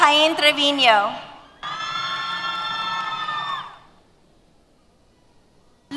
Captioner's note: cheers